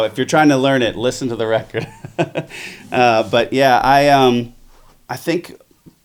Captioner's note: laughs